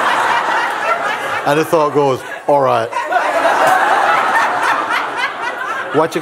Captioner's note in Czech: smích